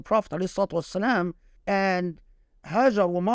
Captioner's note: speaking Arabic